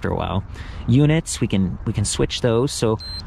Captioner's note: bike beeps